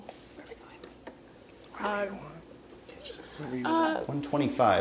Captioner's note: whispering